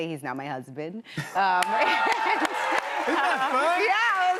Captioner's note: cheers and applause